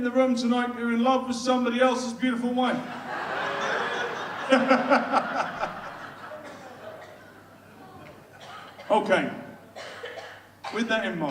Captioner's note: audience laughs